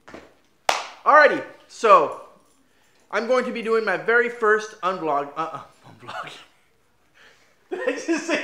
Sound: clap

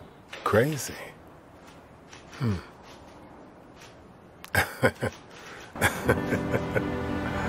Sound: laughing

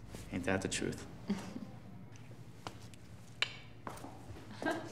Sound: chuckling

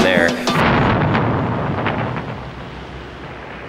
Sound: explosion

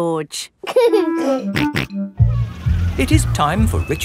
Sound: giggling and snorting

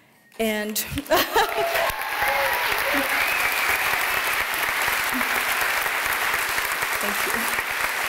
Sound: cheering

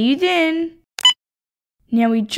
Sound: click!

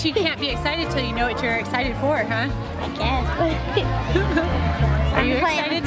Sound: laughs

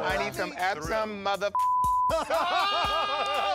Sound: laughter

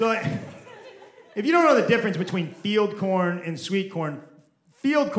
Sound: nervous laugh

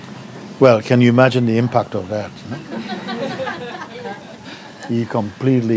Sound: laughter

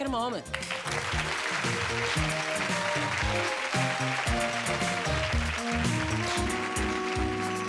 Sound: applause

